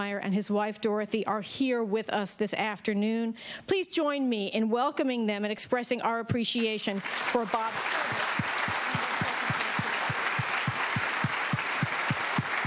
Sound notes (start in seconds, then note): 6.9 audience applauding